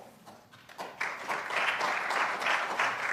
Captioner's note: applause